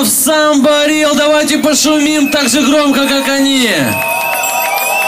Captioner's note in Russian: аплодисменты, крики и звонки велосипедистов